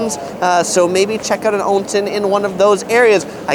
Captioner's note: speaks in foreign language